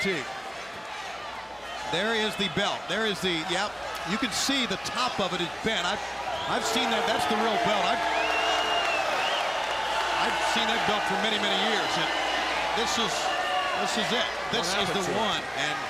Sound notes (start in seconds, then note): 0.0 crowd chatter; 7.7 crowd cheering